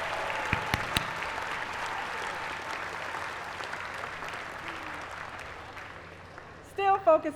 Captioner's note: applause